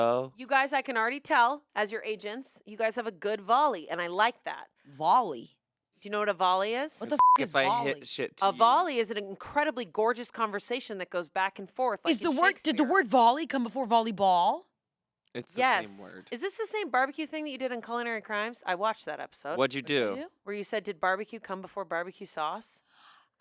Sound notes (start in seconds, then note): 7.0 beep